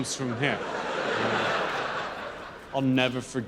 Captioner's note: audience laughs